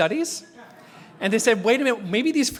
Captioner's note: laugh